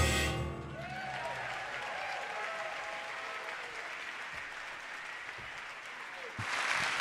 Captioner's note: audience cheering; audience applauding